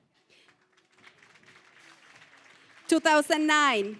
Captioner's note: applause